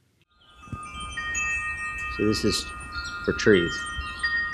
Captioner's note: wind chimes